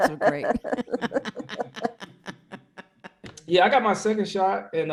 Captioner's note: laughing